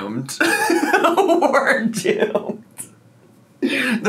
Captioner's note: laughing